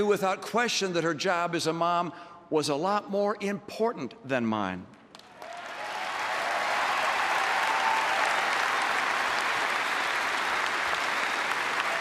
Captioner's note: applause